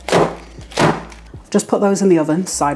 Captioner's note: bang bang bang